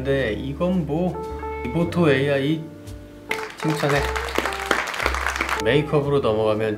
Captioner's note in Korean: 박수갈채